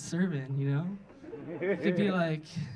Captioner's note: audience laughing